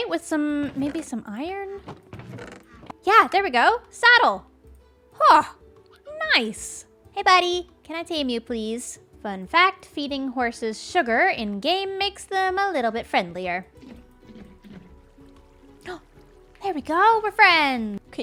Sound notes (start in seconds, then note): 15.8 gasps